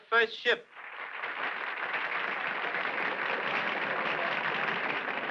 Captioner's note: crowd applauding